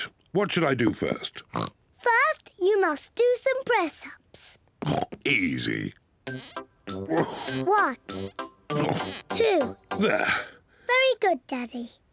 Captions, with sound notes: What should I do first? (OINKS) First, you must do some press-ups. -(OINKS) Easy. Ugh. -One. -Ugh. -Two. -There. -Very good, Daddy.